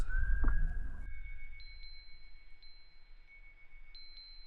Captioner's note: chimes ringing